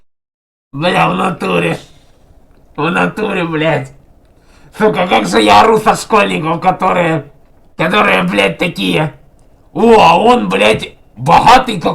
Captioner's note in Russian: смеётся